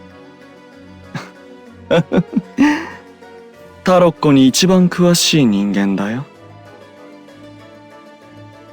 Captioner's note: laugh